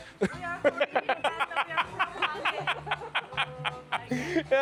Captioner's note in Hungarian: nevetés